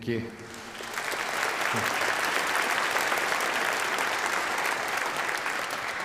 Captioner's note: applauds